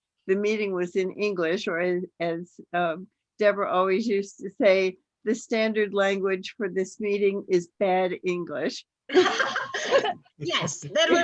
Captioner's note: laughter